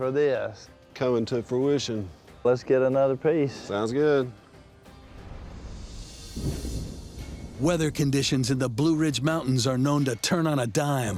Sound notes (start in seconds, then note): 5.2 thunder rumbling